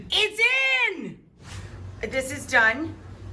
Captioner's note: whoosh